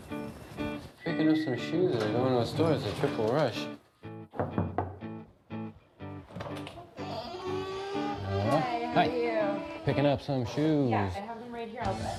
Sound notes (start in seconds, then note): 4.3 knock on door